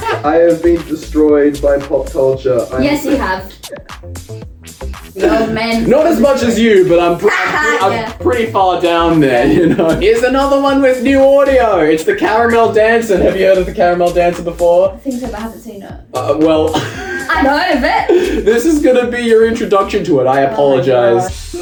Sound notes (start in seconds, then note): 2.8 giggles; 18.1 wheezes